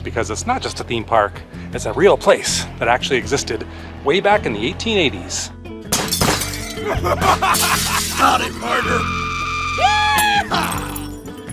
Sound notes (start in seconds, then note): 5.9 gunshots and glass breaking; 6.8 cowboys hooting and hollering